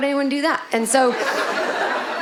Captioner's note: audience laughing